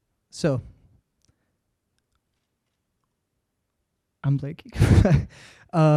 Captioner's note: chuckles